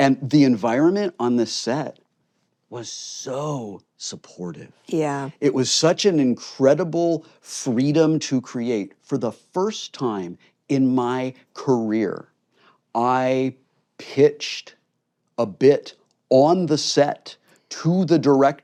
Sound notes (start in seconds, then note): none